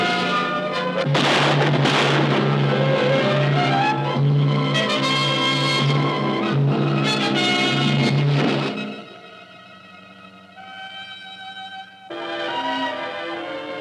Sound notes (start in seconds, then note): 0.9 gunshots firing; 5.1 dramatic orchestral music